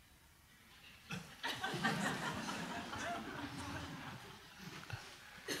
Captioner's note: audience laughing